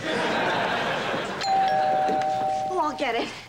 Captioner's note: doorbell rings